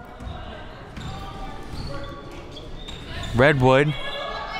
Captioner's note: crowd murmuring